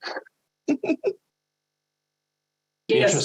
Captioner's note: laughs